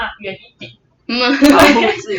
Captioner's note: laughter